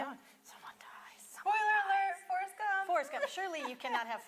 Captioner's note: whispers